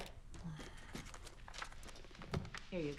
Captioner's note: Jill grunts